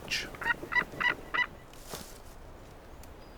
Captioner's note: eagle caws